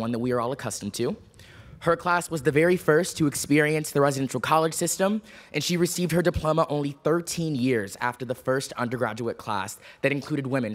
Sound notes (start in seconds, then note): none